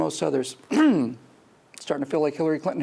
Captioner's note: clears throat